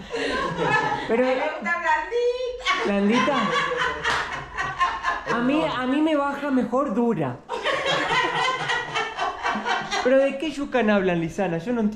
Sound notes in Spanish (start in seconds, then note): 0.1 Risas; 7.5 Risas